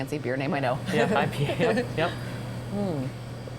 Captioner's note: laugh